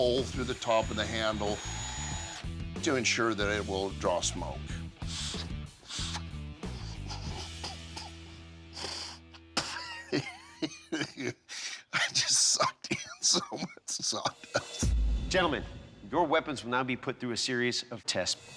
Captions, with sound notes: of the handle to ensure that it will draw smoke. [coughs] [spits] I just sucked in so much sawdust. Gentlemen, your weapons will now be put through a series of tests,